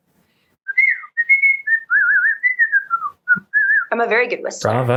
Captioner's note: audio cuts out; she whistles a tune